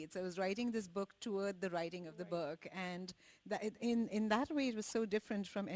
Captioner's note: none